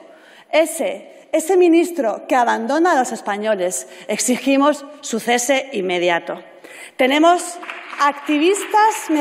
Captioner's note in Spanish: Aplausos